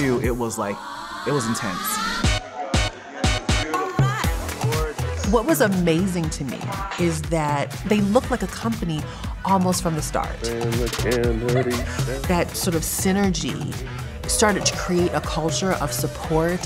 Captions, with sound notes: it was like, it was intense. (upbeat music) - What was amazing to me is that they looked like a company almost from the start. - Look good, ladies (giggling) That sort of synergy started to create a culture of support,